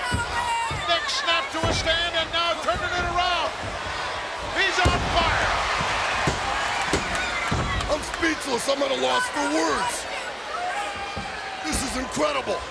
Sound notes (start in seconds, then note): 5.0 referee pounding fist